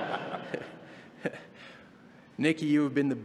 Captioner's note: laughter